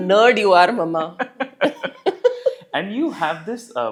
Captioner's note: laugh